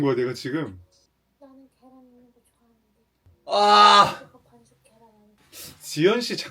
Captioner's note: whining about not putting an egg in